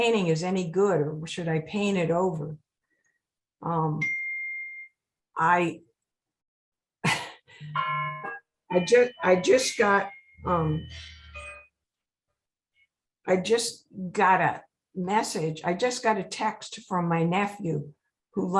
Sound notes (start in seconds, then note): 4.1 bell dinging; 7.0 chuckling; 8.7 bell dinging